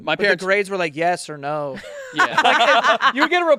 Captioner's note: laughing